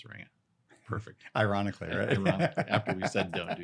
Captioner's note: laughs